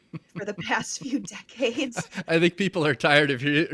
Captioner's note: laughing